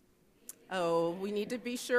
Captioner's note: crowd murmurs